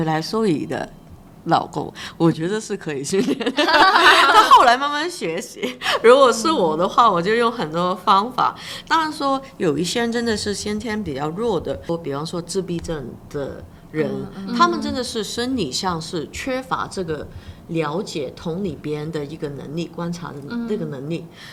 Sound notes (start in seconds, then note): 3.1 laughter